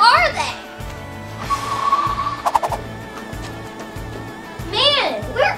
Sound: air whooshes

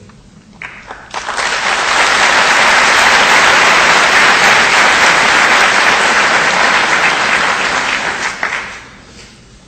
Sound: audience applause

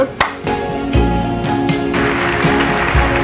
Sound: audience Applause

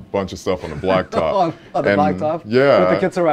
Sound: laughing

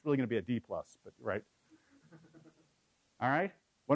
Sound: laugh

